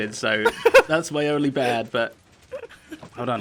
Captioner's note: laughs